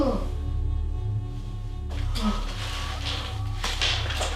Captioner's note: Scott whimpering